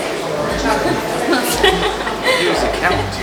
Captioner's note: laughing